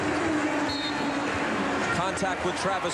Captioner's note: whistle blows